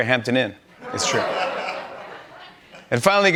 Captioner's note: laughter